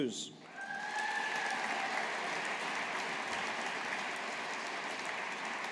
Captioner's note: audience applauding